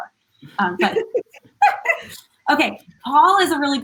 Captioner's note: giggling